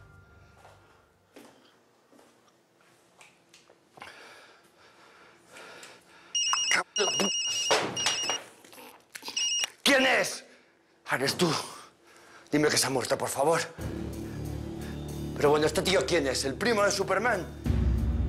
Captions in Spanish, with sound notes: [Suena el celular] >>C--- [Suena el celular] ¿QUIÉN ES? ¡AH, ERES TÚ! ¿QUIÉN ES? ¡AH, ERES TÚ! DIME QUE SE HA MUERTO, ¡AH, ERES TÚ! DIME QUE SE HA MUERTO, POR FAVOR. PERO BUENO, ¿ESTE TÍO QUIÉN ES, EL PRIMO DE SUPERMAN?